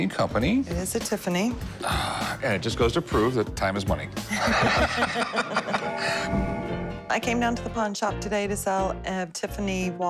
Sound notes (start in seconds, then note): 4.2 laughter